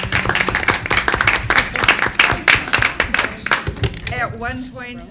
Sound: applause

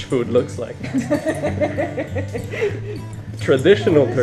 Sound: laughing

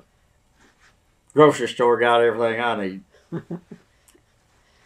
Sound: laughs

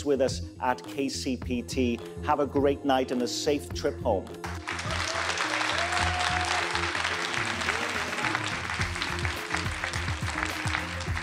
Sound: applause

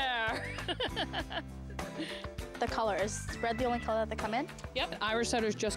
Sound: chuckling

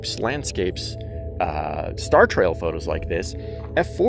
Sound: humming

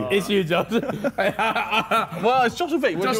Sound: all laughing

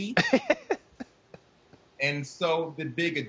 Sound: laughing

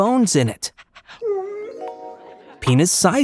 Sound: dog whimpers

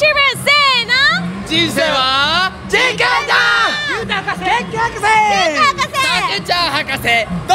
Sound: shouting their names

